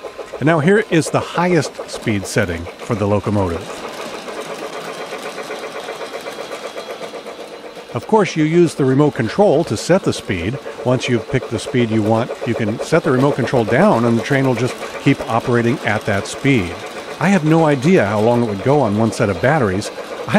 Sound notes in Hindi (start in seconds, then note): 4.4 चगिंग ध्वनि पहले से भी तेज है